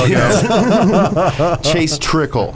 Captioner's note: laughs